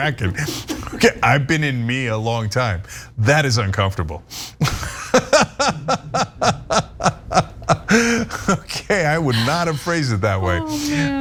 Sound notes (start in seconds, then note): 7.5 laugh